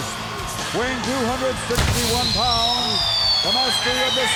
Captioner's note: fireworks popping